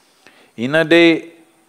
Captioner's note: none